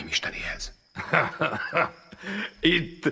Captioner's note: chuckles